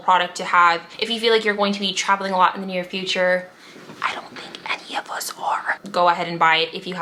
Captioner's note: whisper: I don't think any of us are